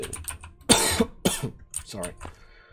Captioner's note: more loud coughing